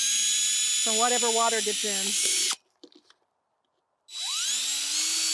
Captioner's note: drill whirring